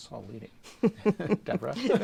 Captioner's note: chuckles